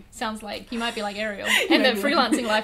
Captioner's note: laughs